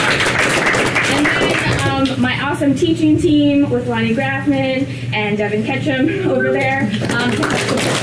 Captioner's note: applause